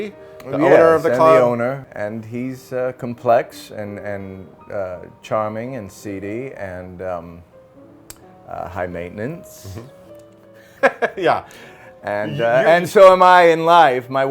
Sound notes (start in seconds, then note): 10.6 chuckling